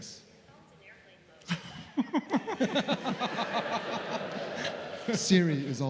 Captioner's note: laughter